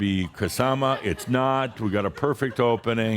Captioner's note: some chuckles